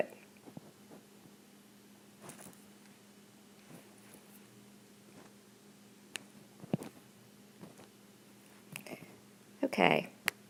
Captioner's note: silence